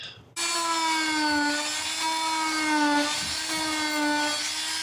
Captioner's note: drill whirring